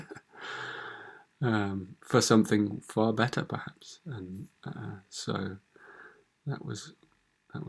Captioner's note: chuckles